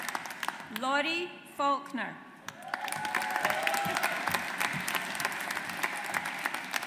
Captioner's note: audience applauds